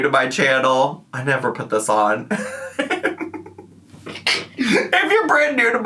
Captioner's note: laughs